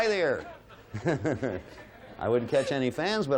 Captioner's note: laughs